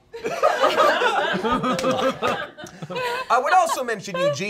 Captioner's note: all laughing